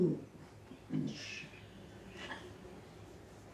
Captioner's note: shushes